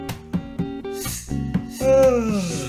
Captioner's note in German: Schlange huscht zischend vorbei; Gähnen